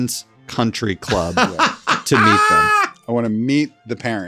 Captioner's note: laughs